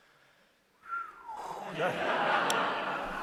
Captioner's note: whistles; audience laughter